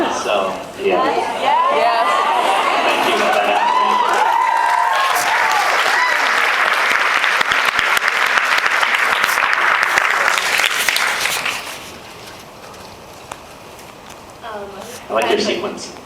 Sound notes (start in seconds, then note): 3.8 cheers, applauds; 8.1 applauds